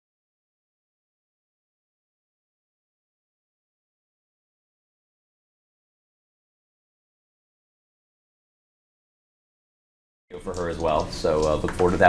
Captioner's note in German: kein Ton